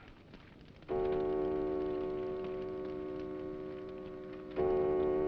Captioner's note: clock chiming